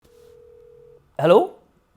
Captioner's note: phone ringing